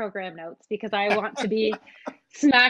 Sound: laughing

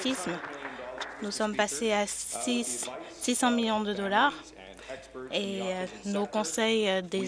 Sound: applause

